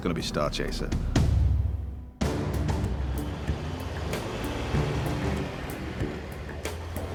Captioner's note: dramatic music; traffic roaring